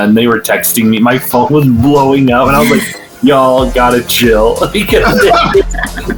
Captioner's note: laughs